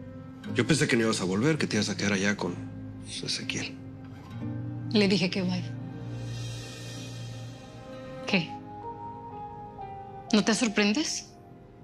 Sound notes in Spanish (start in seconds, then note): none